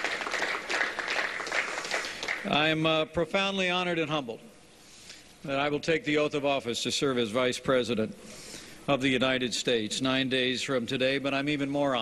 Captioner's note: applause